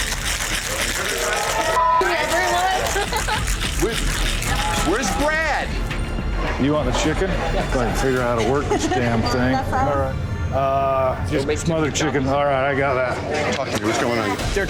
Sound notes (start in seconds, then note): 0.0 chatter; 2.0 laughs